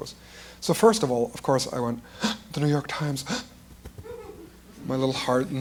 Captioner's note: quickly inhales